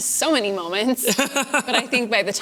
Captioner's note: laughter